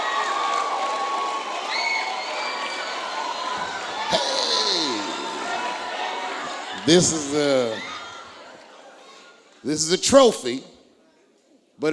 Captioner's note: applause